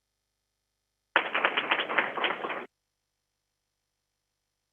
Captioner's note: crowd applauding